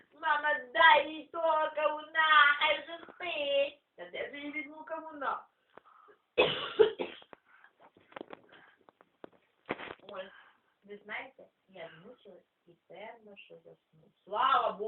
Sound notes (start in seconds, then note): 6.4 cough